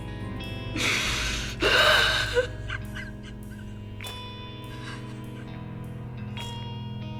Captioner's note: Moira cries